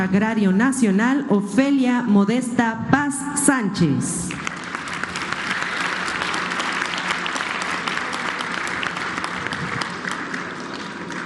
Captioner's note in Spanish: aplausos